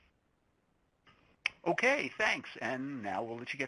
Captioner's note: voiceover